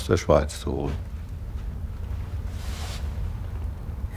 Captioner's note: quiet crackling, rustling